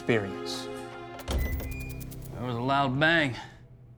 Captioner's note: door creaks open